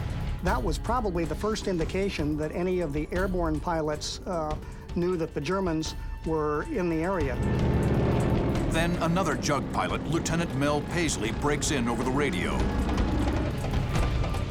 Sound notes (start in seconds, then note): none